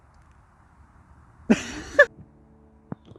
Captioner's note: laughs